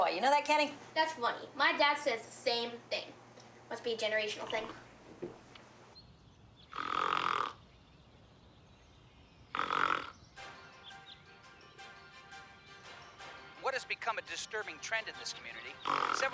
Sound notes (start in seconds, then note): 7.9 Grandpa snoring; 7.9 dramatic news music